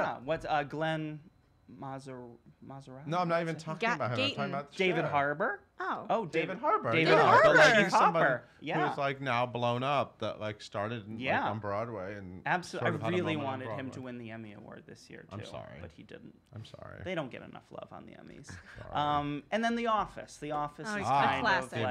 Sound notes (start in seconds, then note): 7.8 chattering